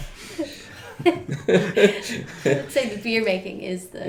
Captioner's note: laughing